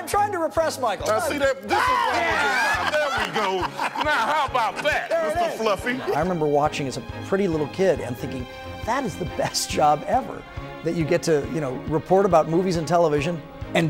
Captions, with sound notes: - I'm trying to repress, Michael. - Now, see that? (yells) (anchors laugh) This is what's wrong. There we go. Now how about that, Mr. Fluffy? - I remember watching as a pretty little kid and thinking, that is the best job ever, that you get to report about movies and television